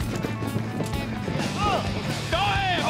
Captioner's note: hoof beats